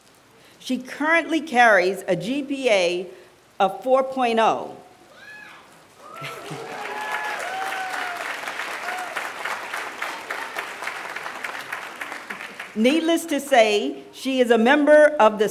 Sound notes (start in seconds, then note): 6.0 applause